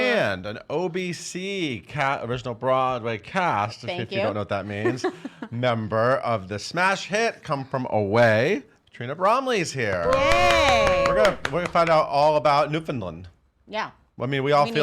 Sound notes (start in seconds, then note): 10.0 applauding